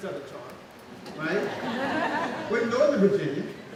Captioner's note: laughing